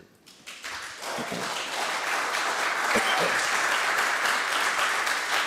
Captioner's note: audience members applauding